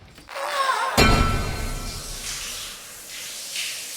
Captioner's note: Eddie cries out; dramatic bang; water splattering